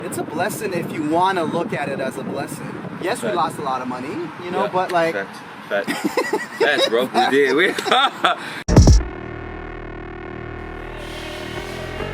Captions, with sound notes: - It's a blessing if you wanna look at it as a blessing. Yes, we lost a lot of money, you know. - Facts, facts. (laughs) - Facts bro. (electronic music)